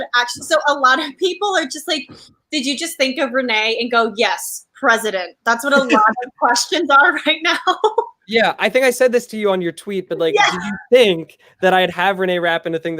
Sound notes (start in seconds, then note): 5.7 laughs